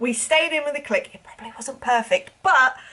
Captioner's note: whispers